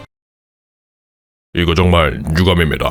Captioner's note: crowd silenced